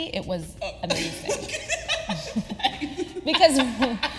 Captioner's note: laughing